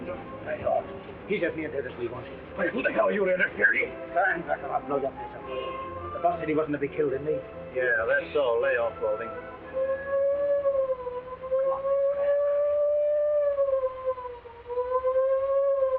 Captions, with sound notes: - Lay off. - He's as near dead as we want him. - Who the hell are you to interfere? - Stand back or I'll blow your face off. The boss said he wasn't to be killed, didn't he? - Yeah, that's so. Lay off, Balding. (siren wailing nearby) - Come on. Go ahead. (siren wailing)